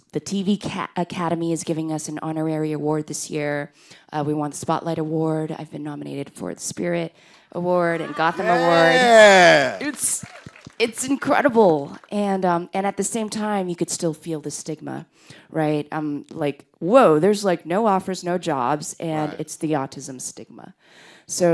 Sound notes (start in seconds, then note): 7.8 group cheers